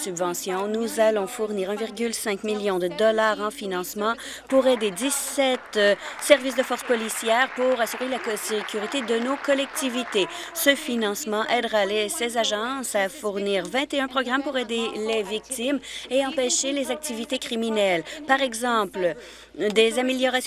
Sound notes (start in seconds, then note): 11.7 applause